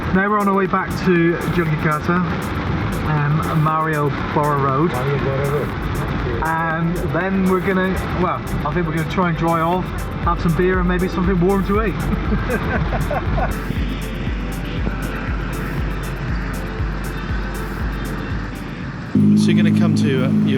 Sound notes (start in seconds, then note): 13.7 laughter